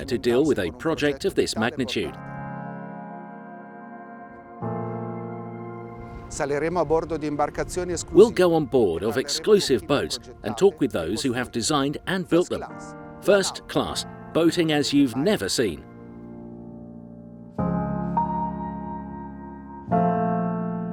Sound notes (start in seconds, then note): 6.5 speaking in foreign language; 16.4 gentle music